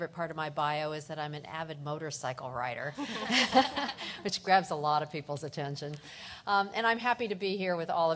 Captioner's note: laughter